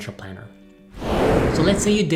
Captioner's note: whooshing